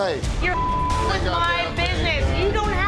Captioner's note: beep